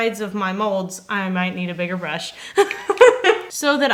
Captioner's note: laughs